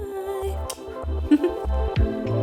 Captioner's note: giggles; upbeat electronic music